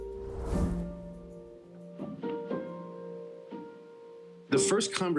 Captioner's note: image whooshing; pensive instrumental music